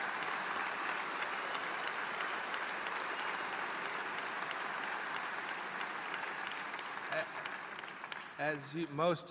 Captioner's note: applause